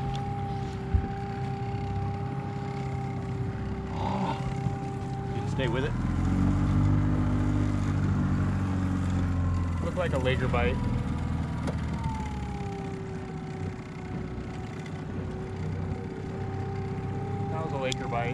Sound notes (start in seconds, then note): 3.4 winch motor running; 8.4 boat motor running; 13.4 boat engine running